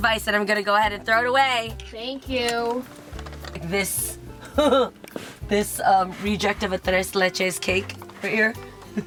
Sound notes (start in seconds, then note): 4.4 chuckles